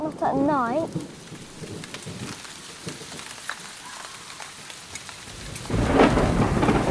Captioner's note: rain pattering; thunder rumbling; thunder crashing